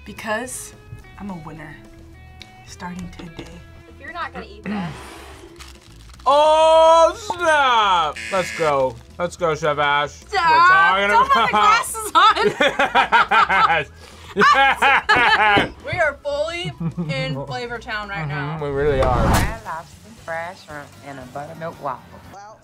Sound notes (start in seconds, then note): 8.1 buzzer; 14.1 both laugh